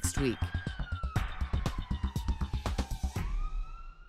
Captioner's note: sirens